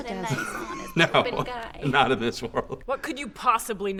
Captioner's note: chuckling